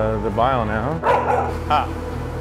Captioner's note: dog barking